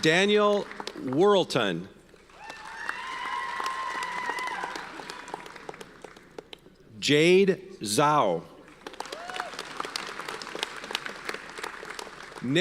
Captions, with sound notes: Daniel Worlton. (audience cheers and applauds) Jade Zhao. (audience cheers and applauds)